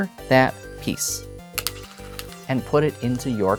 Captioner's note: stone rattling